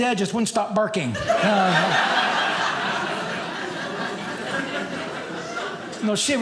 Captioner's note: audience laughing